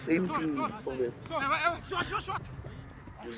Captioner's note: shouting